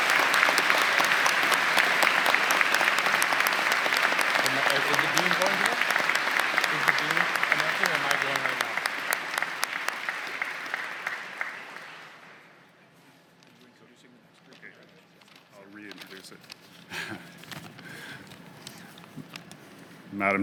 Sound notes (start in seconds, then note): 0.0 applause; 3.7 applause; 8.6 applause; 13.5 applause; 18.4 applause